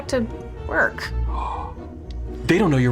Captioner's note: gasps